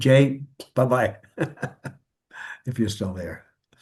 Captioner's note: laughs